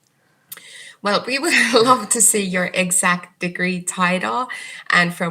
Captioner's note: chuckles